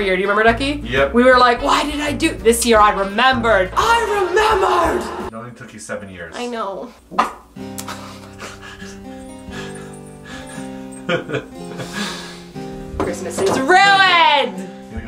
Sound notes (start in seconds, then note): 8.1 laughing; 8.1 sad sighing